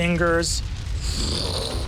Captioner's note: fire crackling